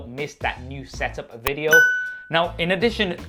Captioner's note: bell rings